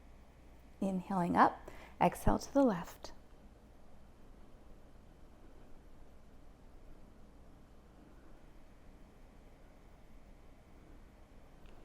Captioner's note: inhales Deeply